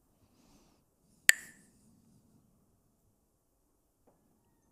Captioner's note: clacks the sticks